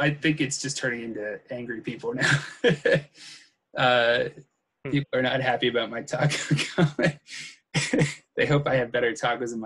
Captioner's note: laughs